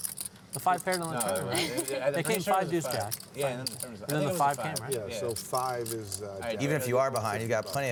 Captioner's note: chattering